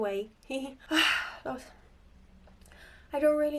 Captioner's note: sighs